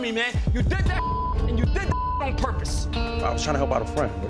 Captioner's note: beep